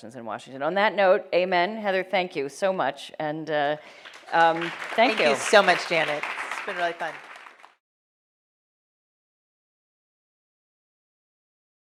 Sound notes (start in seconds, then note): 3.7 audience applauds